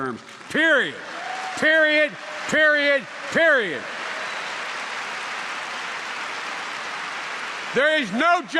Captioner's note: applause